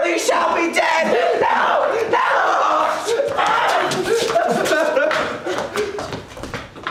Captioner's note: loud crying and struggling